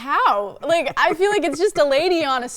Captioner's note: laughing